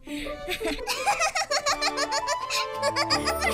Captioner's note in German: Gelächter